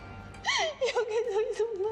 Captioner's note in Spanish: Sollozos